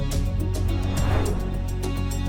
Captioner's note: suspenseful music continues; transition whooshing